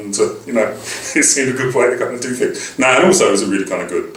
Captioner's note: laugh